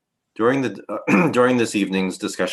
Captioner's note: clears throat